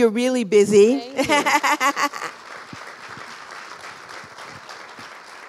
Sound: applause

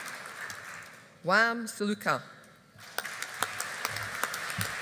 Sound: audience applauding

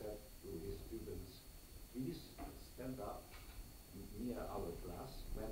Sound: none

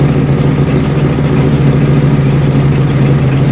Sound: hemi engine sounds

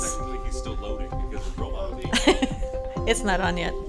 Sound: laughs

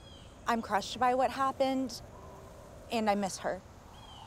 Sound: none

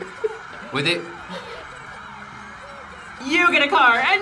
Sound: crowd cheers

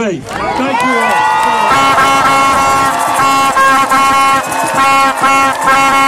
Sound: cheering, horns honking

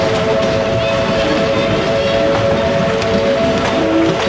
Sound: whistle blowing

